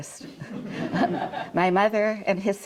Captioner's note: audience chuckling